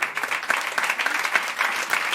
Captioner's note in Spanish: Aplausos